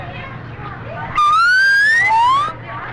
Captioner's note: slide whistle blows